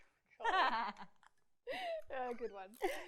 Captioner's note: laughs